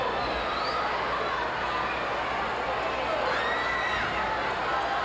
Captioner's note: audience cheering continues